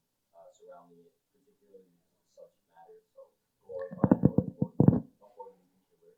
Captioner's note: speaking faintly